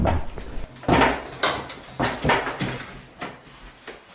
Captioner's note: things falling